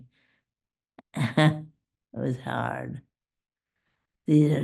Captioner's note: laughs